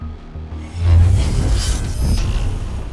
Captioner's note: buzzing